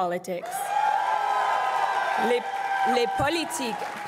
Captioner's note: crowd cheering and applauding